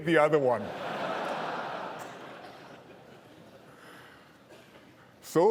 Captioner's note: laughter